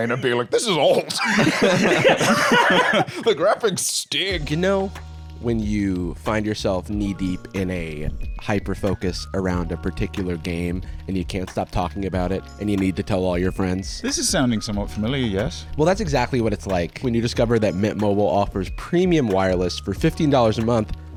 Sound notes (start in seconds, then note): 0.9 all laughing